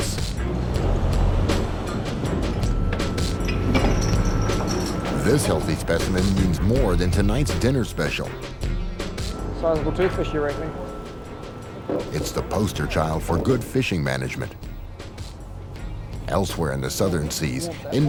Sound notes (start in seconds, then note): 0.1 brooding music; 2.9 machinery whirs